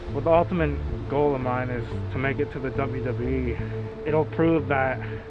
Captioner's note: none